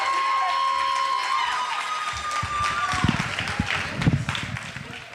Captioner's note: audience cheering